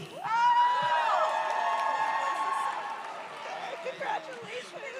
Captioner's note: audience cheers